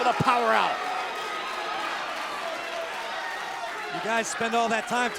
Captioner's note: crowd cheering